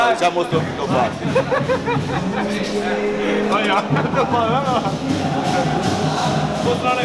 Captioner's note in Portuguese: risadas ao fundo